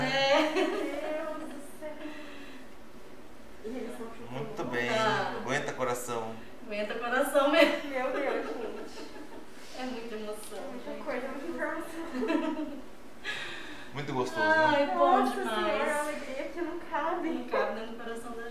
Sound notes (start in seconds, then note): 7.9 laughs; 12.0 laughter